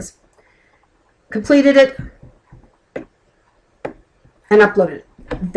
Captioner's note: clicking